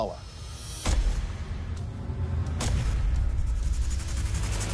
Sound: booming impacts

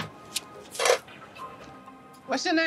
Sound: upbeat music playing; money clinking

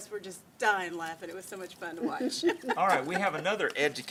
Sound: laughs

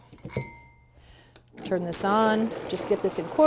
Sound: blender grinding

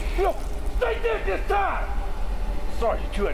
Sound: shouting

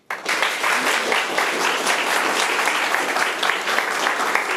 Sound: room applauds

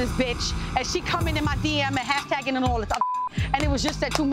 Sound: beep

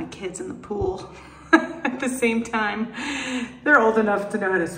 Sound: laughs

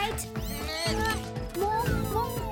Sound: bleating

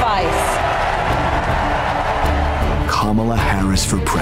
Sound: crowd cheers

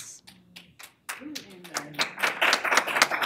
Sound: applause

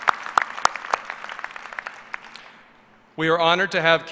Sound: applause

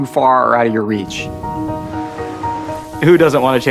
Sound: wind softly whooshes

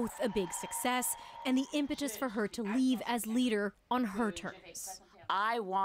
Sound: cheers

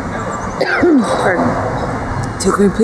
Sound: coughs

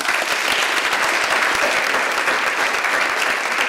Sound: audience applauds

